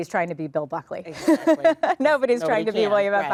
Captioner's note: laughing